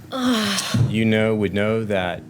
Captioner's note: sighs